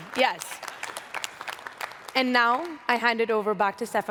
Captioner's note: applause